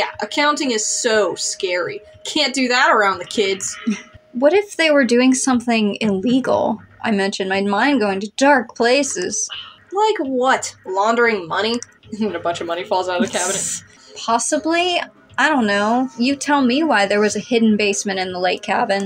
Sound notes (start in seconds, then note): 3.7 chuckle; 13.6 snicker